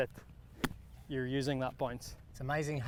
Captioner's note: golf club thwacking